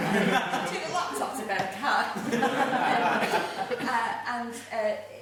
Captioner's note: laughing